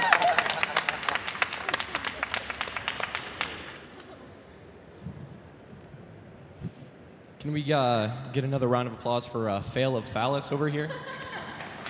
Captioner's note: applause